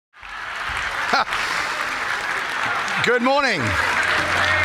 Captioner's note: audience applauding